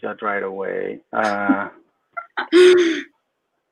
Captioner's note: laughs